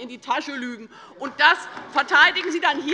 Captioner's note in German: Beifall bei der LINKEN - Zurufe von der CDU